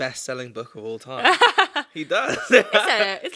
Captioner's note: giggling